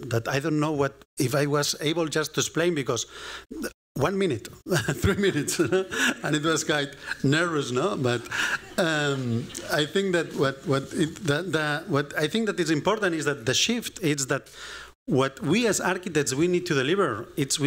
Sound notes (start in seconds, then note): 8.0 laughter